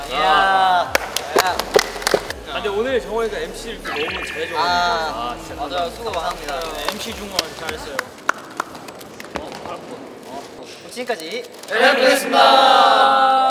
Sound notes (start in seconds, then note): 6.7 applause~